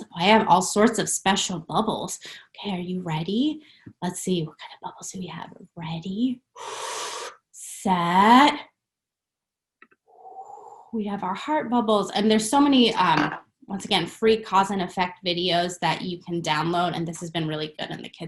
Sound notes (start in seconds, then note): 6.5 inhales deeply; 10.1 exhales softly